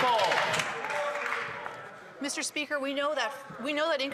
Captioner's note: applause